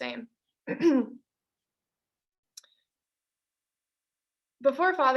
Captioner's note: clearing throat